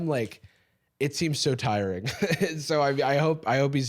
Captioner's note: laughs